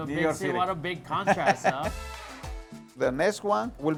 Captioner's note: laughs